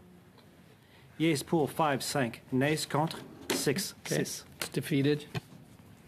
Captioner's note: speaking French